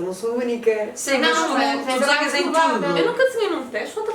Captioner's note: confused